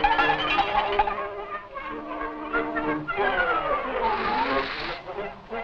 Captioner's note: cow bell clanging; milk splashing